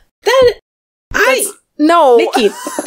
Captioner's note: laughs